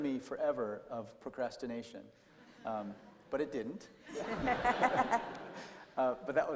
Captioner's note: laughter